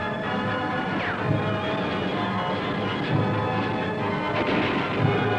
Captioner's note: dramatic music; bullets ricochet